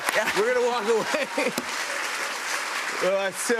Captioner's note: laughter and applause